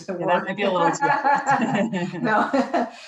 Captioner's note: both laughing